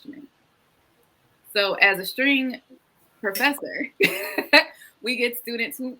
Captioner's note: laughs